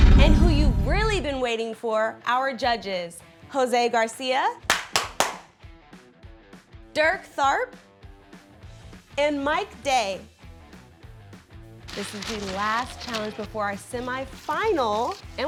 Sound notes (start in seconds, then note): 4.6 claps